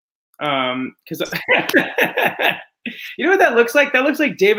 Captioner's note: laughs